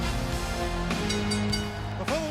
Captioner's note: bell ring